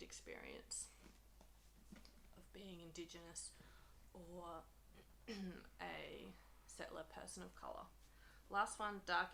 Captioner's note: clears throat